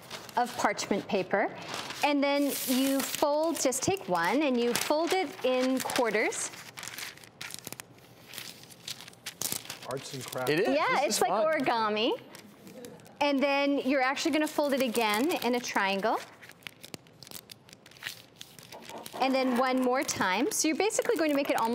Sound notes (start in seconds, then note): 6.5 paper rattling